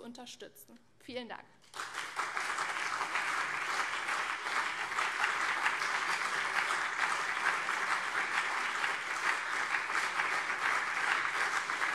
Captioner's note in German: Beifall CDU und SPD